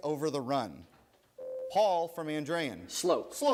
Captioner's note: buzzer rings